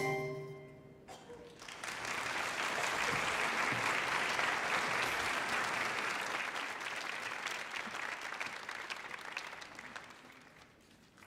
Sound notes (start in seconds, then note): 1.7 audience applauding